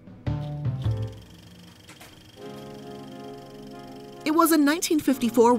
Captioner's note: reel rattling